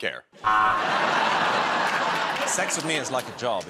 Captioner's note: laughter